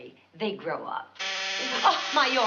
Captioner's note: timer buzzes